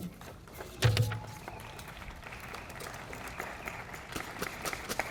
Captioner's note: audience applauding